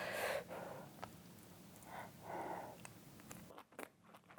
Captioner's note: blowing